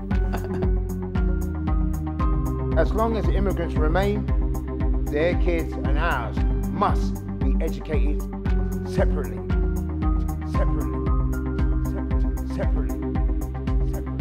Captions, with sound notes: [MALE AUTHORITATIVE VOICE] 'As long as immigrants remain, their kids and ours must be educated separately. [MUSIC DROWNS SPEECH] Separately. Separately. Separately.'